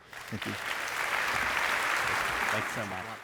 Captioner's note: audience clapping